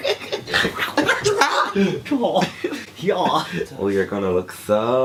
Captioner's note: laughter